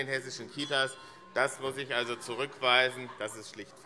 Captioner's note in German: Anhaltende Unruhe - Glockenzeichen